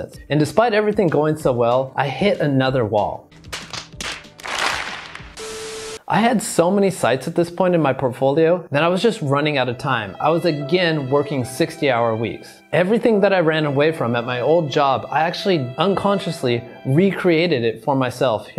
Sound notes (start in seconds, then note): 3.4 loud slaps; 5.2 static buzzing